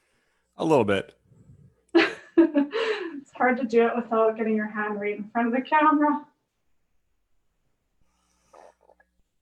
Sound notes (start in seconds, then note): 1.8 laughs